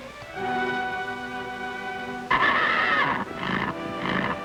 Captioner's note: soft music; horse neighing